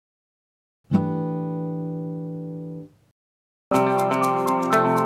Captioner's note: chime sounds; upbeat music